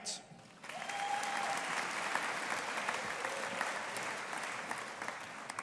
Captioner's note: audience applauding